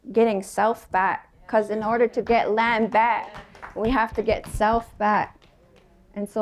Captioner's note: applause